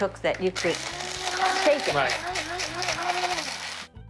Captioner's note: spice grinder whirring